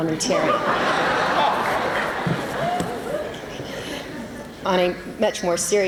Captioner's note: laughter